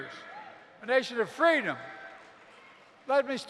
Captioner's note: applause